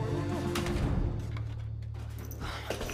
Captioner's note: lock clicks